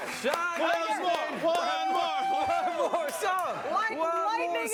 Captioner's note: cheering and Applause